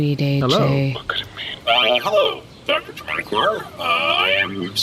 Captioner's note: whispering